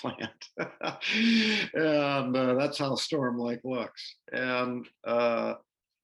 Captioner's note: laughter